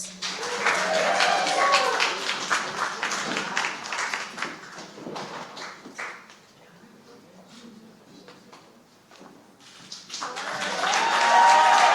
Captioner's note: applause